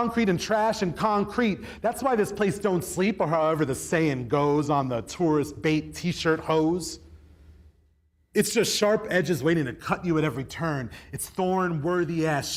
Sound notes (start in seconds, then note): none